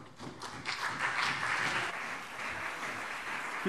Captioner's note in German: Beifall CDU und BÜNDNIS 90/DIE GRÜNEN